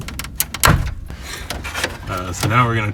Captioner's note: plastic rivets popping